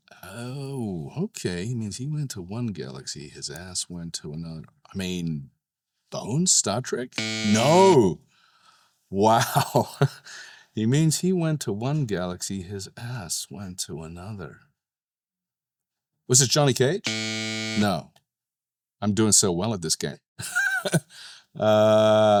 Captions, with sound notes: Oh. Okay. "He means he went to one galaxy, his ass went to another." I mean, Bones, Star Trek? (tone buzzes) No? Wow. "He means he went to one galaxy, his ass went to another." Was it Johnny Cage? (tone buzzes) No. I'm doing so well at this game. (chuckles)